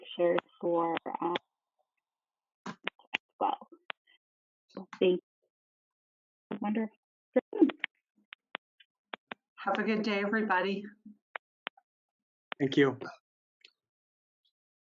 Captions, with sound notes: for (audio cuts out) as well. So. (audio cuts out) - Have a good day, everybody. - Thank you.